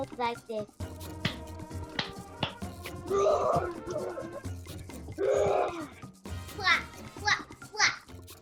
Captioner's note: clapping, roaring